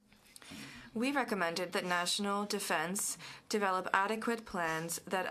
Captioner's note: speaking french